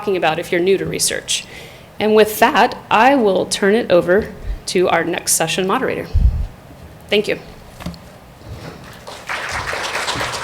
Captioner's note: applause